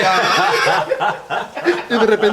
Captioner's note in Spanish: Risas